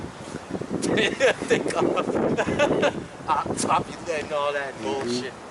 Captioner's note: laughs